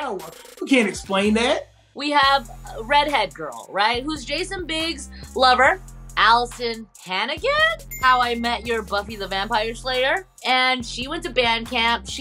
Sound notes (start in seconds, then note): 7.8 bell dings